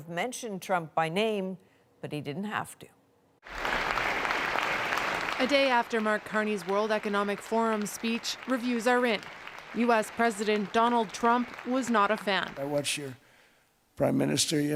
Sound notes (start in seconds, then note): 3.4 applause